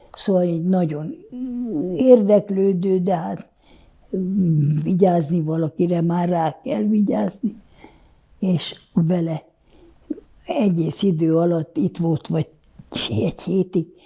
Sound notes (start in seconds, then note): none